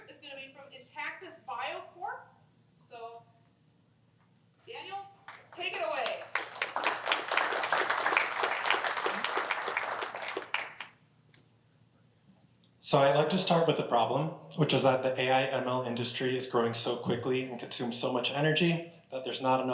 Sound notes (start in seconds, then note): 5.2 applause